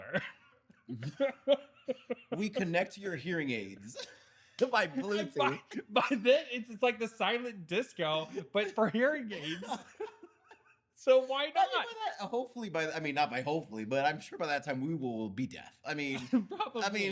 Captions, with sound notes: (Laughing) We connect to your hearing aids. By then, it's like the silent disco, but for hearing aids. So why not? Hopefully, but I mean, not by hopefully, but I'm sure by that time we will be deaf. Probably.